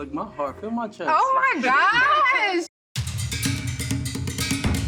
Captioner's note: all laugh